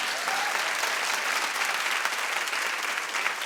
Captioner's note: applauding